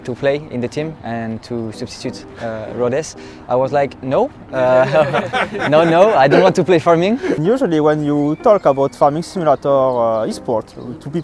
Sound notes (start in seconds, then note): 4.5 laughing